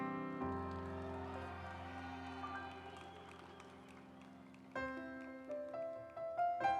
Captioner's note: audience cheering; instrumental music